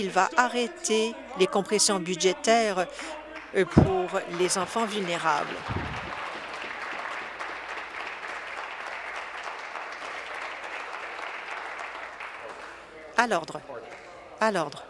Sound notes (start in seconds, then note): 7.7 applause